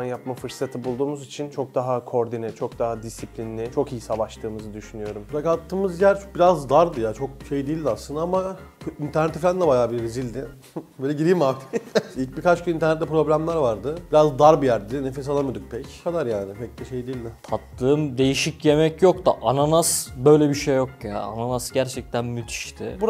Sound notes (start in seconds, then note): 11.5 laughing